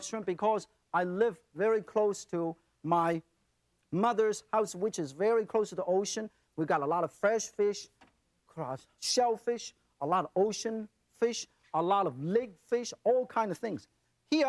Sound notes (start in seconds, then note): none